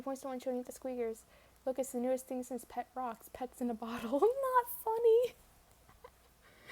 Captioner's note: laughs in not funny